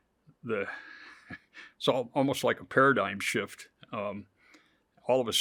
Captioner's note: chuckles